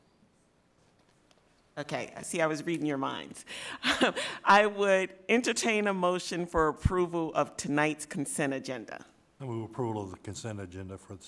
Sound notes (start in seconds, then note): 3.9 laughs